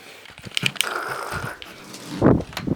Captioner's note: grr